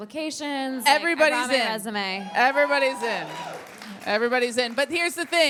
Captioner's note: audience applauds